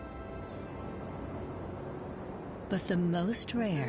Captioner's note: wind blows